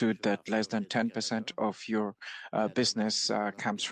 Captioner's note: speaking French